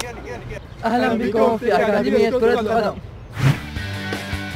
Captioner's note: speaking Arabic